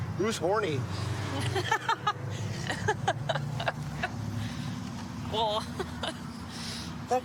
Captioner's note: laughing